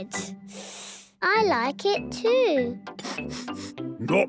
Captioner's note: sniffing; sniffs